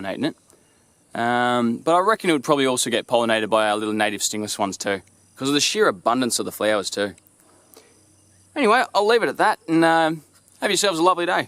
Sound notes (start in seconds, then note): 7.2 bees